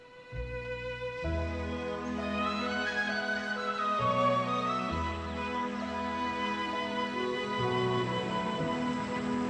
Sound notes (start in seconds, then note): 0.2 gentle music; 2.0 birds chirping